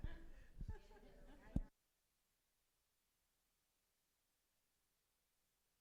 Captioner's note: audience chattering faintly; audience chuckles